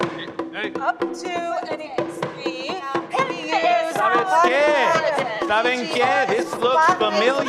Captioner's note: people speaking altogether indistinctly